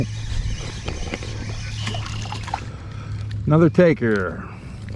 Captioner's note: rod reeling